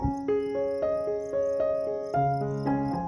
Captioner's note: orange wildflowers, crickets chirping, slightly windy